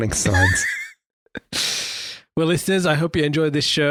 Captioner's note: laughs